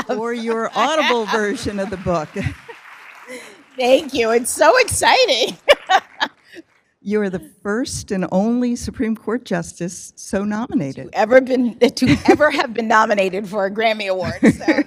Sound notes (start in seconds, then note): 0.0 laughing; 2.7 applause; 5.6 laughs